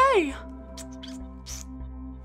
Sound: kisses

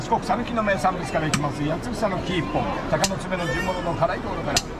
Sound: laughs

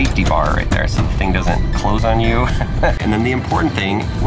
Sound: chuckles

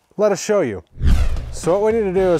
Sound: air whooshing

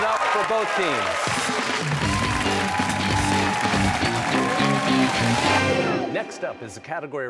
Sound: cheers and applause

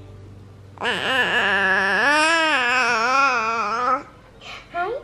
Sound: baby cooing

